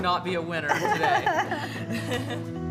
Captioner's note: all laughing; calm music